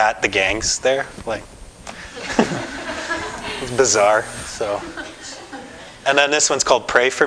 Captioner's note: audience: Laughter